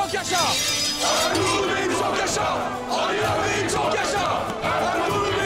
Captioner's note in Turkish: Hep bir ağızdan